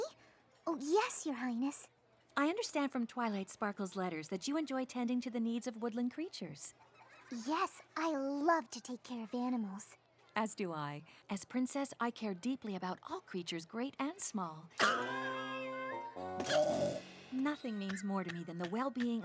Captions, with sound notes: ME? OH, YES, YOUR HIGHNESS. I UNDERSTAND FROM TWILIGHT SPARKLE'S LETTERS THAT YOU ENJOY TENDING TO THE NEEDS OF WOODLAND CREATURES. YES, I LOVE TO TAKE CARE OF ANIMALS. AS DO I. AS PRINCESS, I CARE DEEPLY ABOUT ALL CREATURES GREAT AND SMALL. [ COUGHS ] NOTHING MEANS MORE TO ME